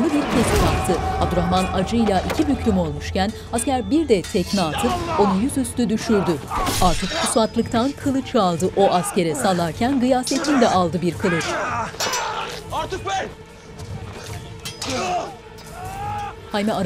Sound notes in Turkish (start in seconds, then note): 0.0 Dövüş sesleri; 6.3 Dövüş sesleri; 15.6 Bağırma sesleri